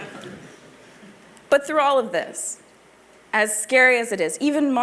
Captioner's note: laughter